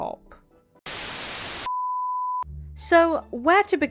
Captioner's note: static